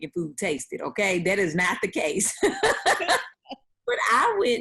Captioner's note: laughing